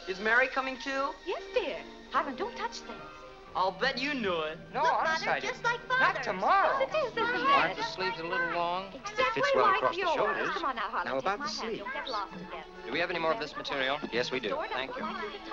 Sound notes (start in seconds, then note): 7.6 customer and tailor arguing